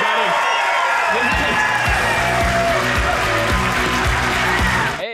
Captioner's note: audience applauding